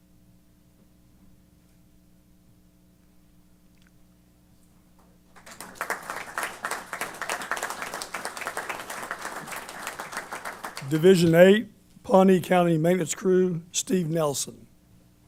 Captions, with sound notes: [APPLAUSE] Division eight-- Pawnee County Maintenance Crew, Steve Nelson.